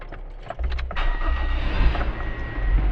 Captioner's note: car starts